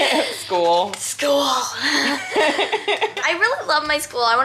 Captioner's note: giggles